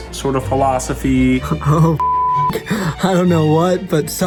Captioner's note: beep